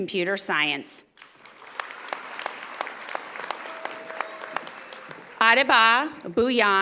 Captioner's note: audience applauding